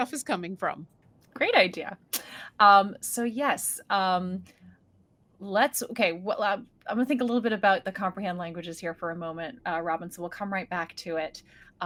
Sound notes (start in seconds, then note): none